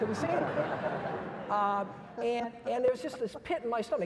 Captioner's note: audience laughs